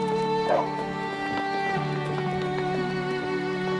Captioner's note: dog barking; soft violin music